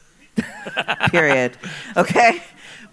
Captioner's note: laughs